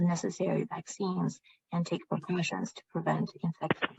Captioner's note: speaking chinese